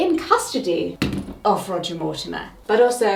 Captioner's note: pointer thuds